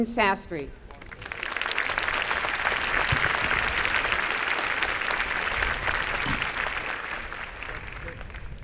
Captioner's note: applause